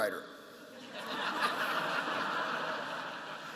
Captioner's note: laughter